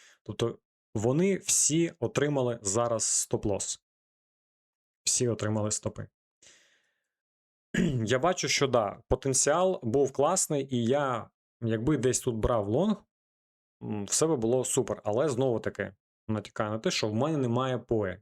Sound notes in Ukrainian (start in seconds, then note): 7.7 прочищення горла